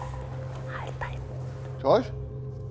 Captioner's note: flüsternd